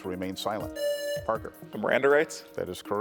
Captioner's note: buzzer buzzing